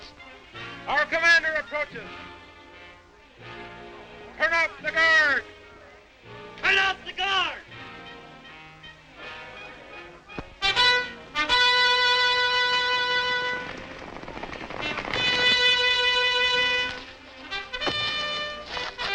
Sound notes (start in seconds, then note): 10.9 trumpet toots; 12.7 horses galloping